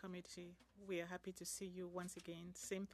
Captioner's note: speaking French